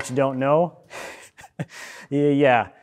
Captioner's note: chuckling